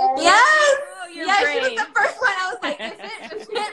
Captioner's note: laughs